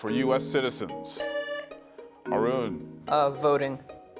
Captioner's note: buzzer sounding